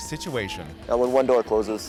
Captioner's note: crowd cheering